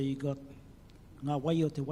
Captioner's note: speaks in foreign language